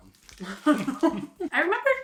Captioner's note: laughing